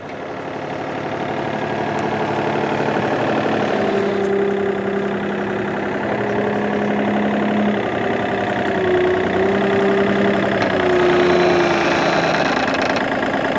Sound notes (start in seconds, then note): 0.1 engine humming; 10.9 engine humming, creaking